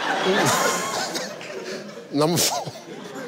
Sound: giggles

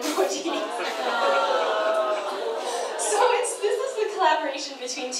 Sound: audience sighing

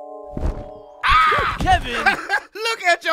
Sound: Kevin cawing; laughing

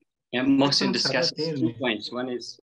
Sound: speaks in Dari

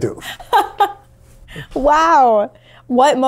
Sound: laughs

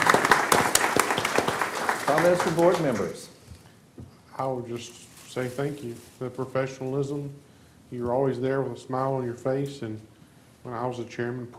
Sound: applause

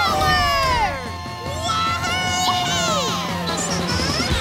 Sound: cheering

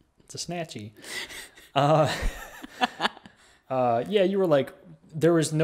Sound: laughs

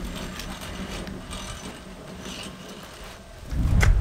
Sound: saw rattling; air whooshing

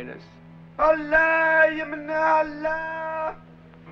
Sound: Arabic spoken audio

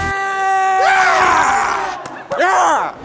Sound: The "Howard Dean" scream

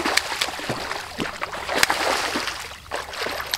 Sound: splash; splashes

